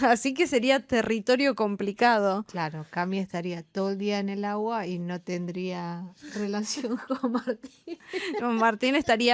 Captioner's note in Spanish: risas